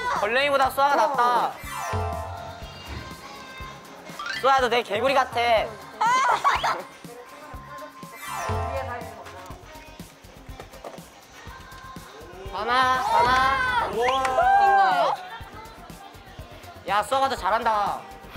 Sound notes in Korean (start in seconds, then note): 6.0 웃음꾹